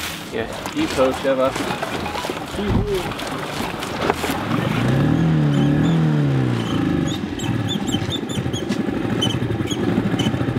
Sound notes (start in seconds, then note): 3.9 engine revving; 6.4 knob squeaking